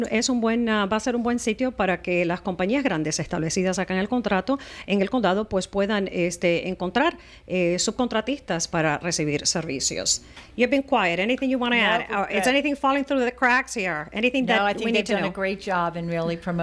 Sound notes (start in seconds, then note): 10.2 Hablando ingl\s